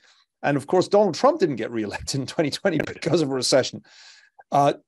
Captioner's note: laugh